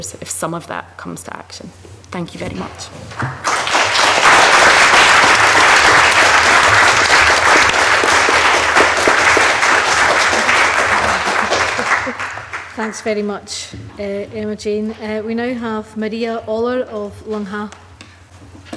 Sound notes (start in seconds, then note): 3.9 audience clapping